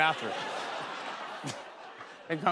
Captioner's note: laughter